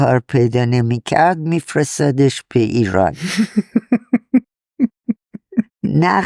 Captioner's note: laughs